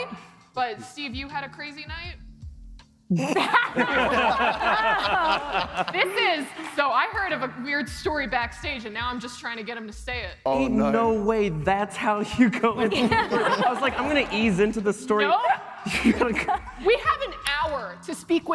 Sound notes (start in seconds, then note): 9.1 laughter